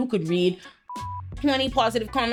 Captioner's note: beep